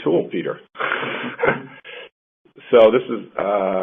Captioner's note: laughs